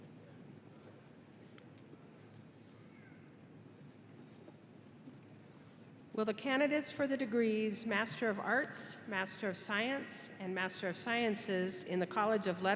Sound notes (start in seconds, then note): none